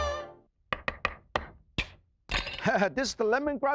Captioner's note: upbeat music; knife chopping